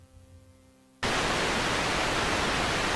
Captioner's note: static Hiss